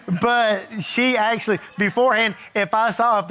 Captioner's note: audience chuckling